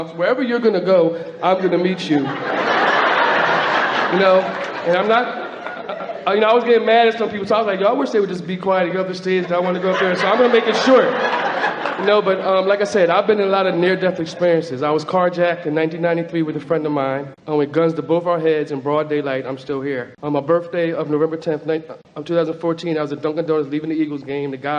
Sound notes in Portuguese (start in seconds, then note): 2.9 Platéia ri